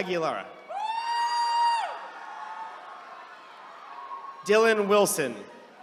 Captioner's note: attendees cheering